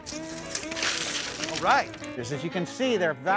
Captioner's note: splashing sound